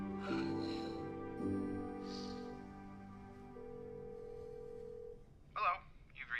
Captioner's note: phone ringing; sighing; phone ringing